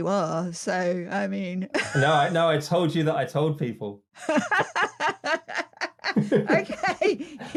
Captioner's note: laughing